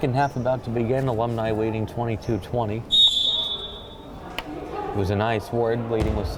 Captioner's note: whistle blowing